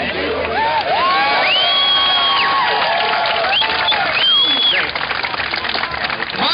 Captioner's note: cheering and applause